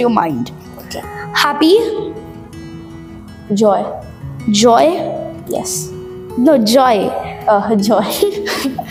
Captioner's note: laughs